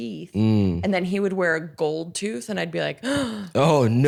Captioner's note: gasps